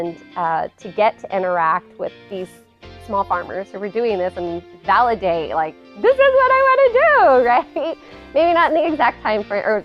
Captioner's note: laughs